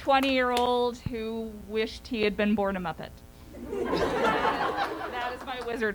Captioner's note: laughter